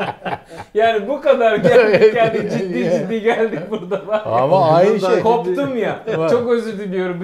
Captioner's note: laughter